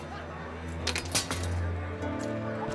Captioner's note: soft clatter